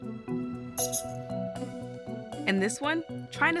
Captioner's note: small bat squeak